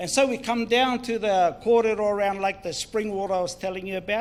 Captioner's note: speaks in foreign language